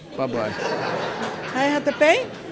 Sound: laughing

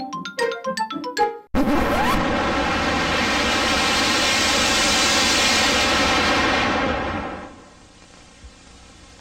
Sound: record scratches/LOUD WHOOSHES

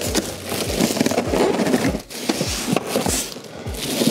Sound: plastic rustling

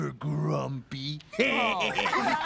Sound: laughing

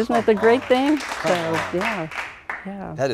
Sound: applause

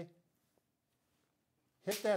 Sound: hands clap

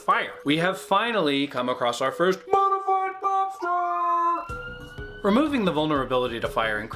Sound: alert blaring

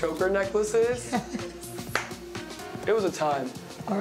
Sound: laughs

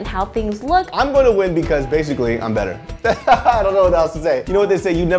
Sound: laughs

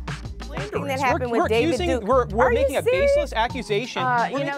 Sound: people yelling

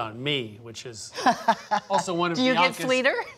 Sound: chuckles; chuckling

